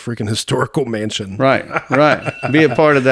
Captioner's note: laughs